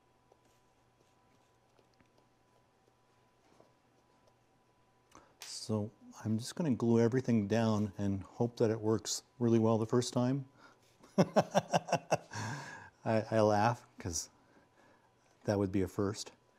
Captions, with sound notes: So I'm just gonna glue everything down and hope that it works really well the first time. (laughing) I laugh, 'cause that would be a first,